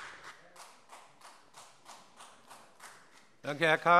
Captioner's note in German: Beifall